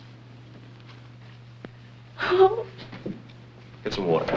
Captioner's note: sobbing